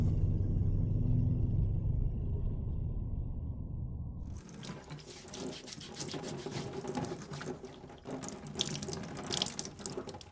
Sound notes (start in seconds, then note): 4.3 water splashing